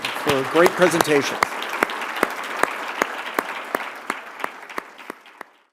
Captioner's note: applause